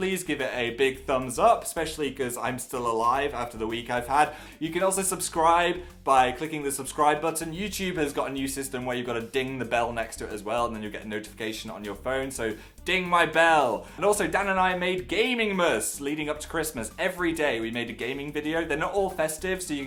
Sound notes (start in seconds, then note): none